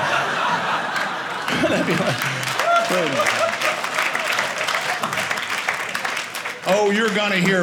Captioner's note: audience laughing; audience applauding